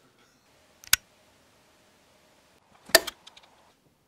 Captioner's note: clicking